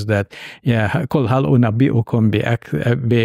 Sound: speaking Arabic

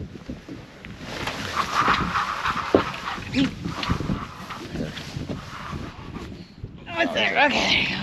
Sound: reel cranking

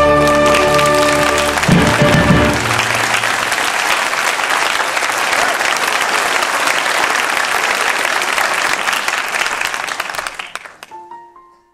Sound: applause

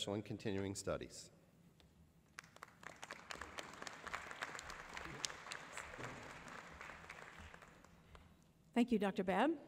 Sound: applause

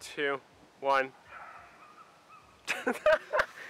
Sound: dog bark

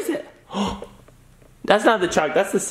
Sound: gasps

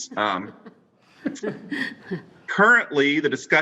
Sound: all laughing

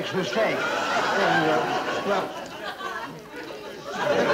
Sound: audience laughing

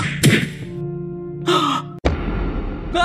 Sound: gasp

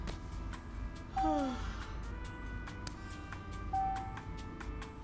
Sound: elevator music; yawning

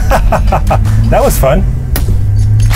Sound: laughing

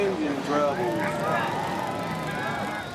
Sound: cheers and applause

